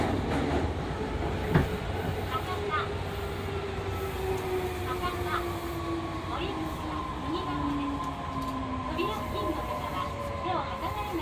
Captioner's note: sound of train passing through points; sound of train slowing down